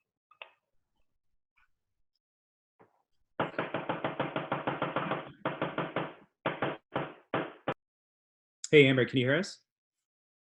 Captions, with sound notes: (banging) Hey Amber, can you hear us?